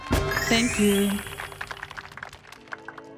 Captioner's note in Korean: 짝짝짝짝짝짝짝짝짝짝짝